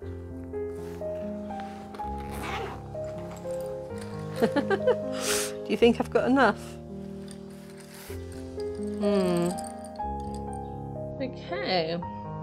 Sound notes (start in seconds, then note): 4.4 laughing